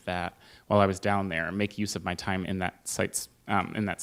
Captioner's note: none